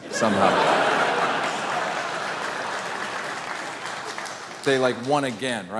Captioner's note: audience laughing and applauding